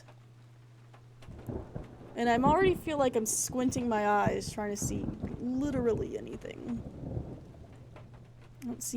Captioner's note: thunder rumbling